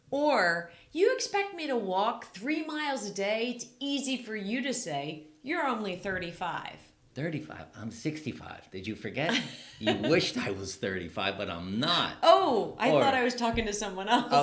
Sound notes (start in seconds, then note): 9.3 laughing